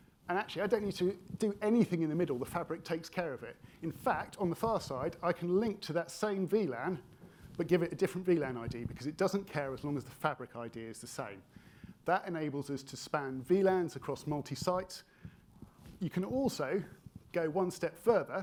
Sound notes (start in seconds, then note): none